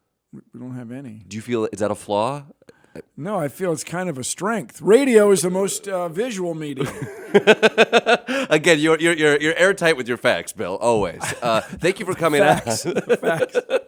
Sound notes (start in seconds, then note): 6.7 laughs